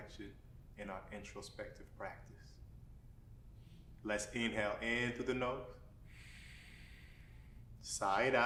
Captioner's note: inward breath